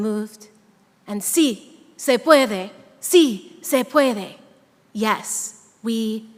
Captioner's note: speaking in a foreign language